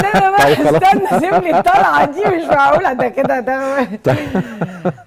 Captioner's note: laughs!